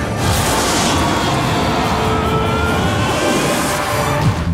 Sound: dramatic music; both yelling

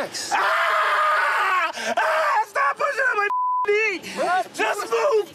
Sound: screaming

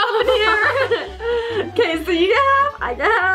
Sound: laughing

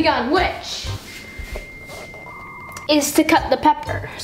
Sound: modem whirring

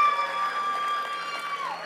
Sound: audience cheers and applauds

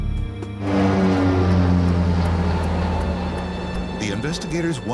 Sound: plane engine roars

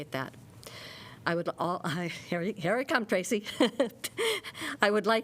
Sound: laughter

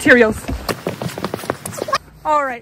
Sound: running

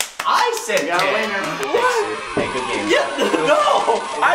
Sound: clapping; cheering

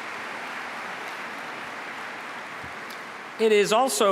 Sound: applause

